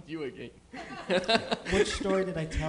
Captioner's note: laughs